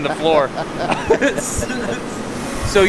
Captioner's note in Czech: Oba se smějí